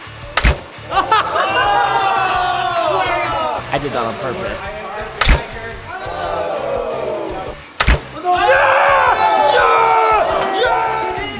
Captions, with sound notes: (cheering) I did that on purpose. (booing) (cheering)